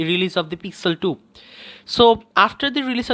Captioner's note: breathes